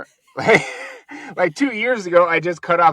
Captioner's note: laughing